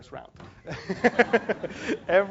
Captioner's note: laugh